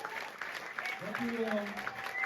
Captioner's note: applause